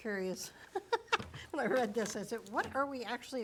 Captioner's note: laughs